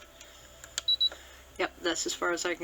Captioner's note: beep, beep